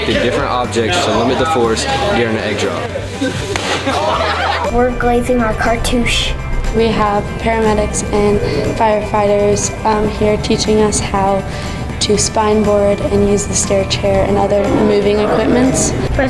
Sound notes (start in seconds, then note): 3.0 students laugh